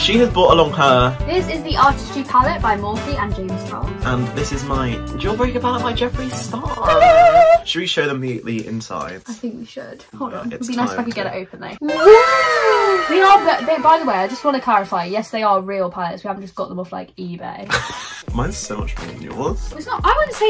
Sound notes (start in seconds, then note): 11.8 wow sfx; 17.7 laughs